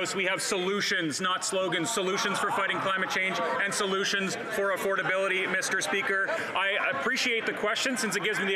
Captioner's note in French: voix de l'interprète